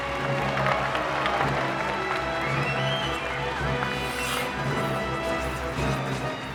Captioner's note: audience applauding; dramatic music